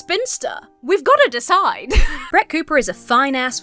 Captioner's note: giggles